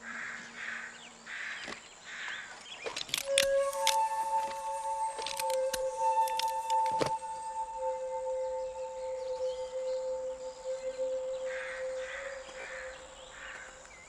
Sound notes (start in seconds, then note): 2.8 gun clicking